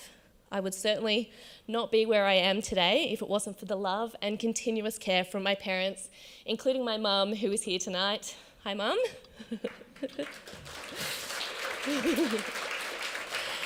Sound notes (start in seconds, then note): 9.4 laughs and applause